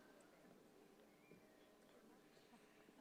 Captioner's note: none